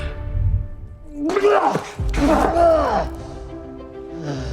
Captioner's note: retches